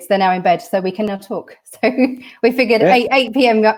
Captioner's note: laughter